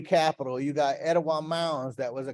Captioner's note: speaking in foreign language